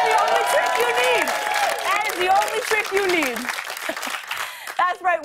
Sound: applause

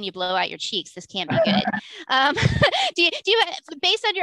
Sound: laughs

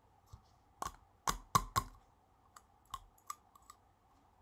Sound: spoon taps

